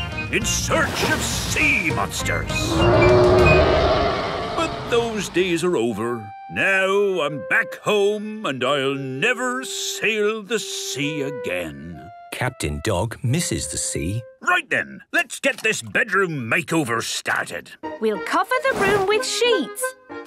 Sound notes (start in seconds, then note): 2.6 roaring